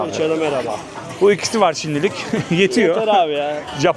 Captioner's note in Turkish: kahkaha